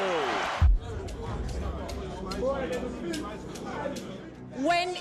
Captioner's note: crowd chattering